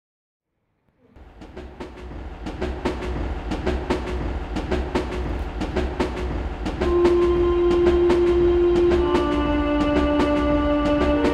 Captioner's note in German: Geräusche von einfahrendem Zug